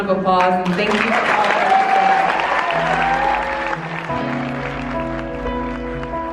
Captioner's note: applause drowns out speech; gentle inspirational music